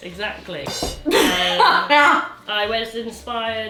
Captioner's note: cymbal clangs; laughs